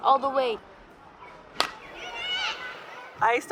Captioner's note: bat cracks